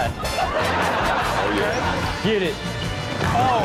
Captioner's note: audience laughs